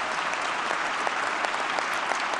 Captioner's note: applause